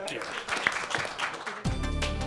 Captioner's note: audience clapping; closing Music